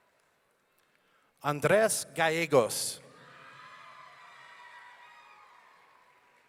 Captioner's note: audience cheering